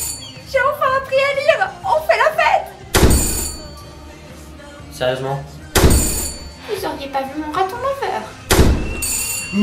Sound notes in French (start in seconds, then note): 3.0 porte qui claque et sonnette; 5.8 porte qui claque et sonnette; 8.5 porte qui claque et sonnette